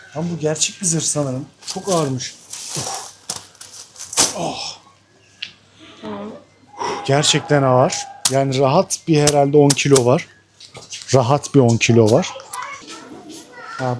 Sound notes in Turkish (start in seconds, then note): 6.6 homurdanır